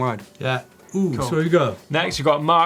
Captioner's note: coos